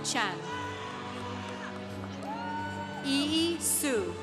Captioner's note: congregation cheering